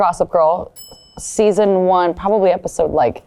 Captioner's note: bell dings